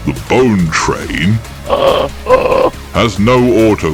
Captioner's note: snort of laughter